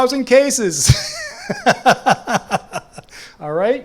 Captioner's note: laughs